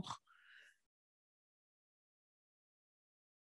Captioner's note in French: silence